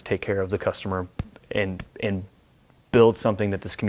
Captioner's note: smacks fists